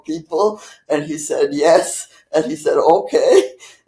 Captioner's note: laughing